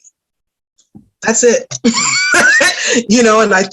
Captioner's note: laughs